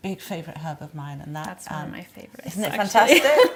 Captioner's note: laughs